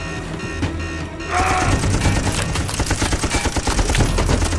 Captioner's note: grunts; gun firing; bullets thudding and clanking